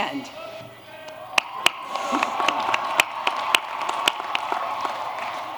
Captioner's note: applause